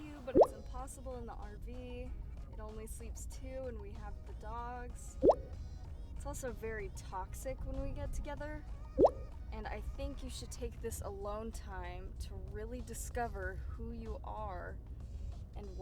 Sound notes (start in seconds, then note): 0.0 text bubble pops; 5.2 text bubble pops; 9.0 text bubble pops